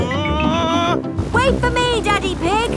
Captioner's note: screaming